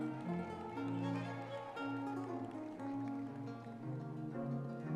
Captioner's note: audience members cheering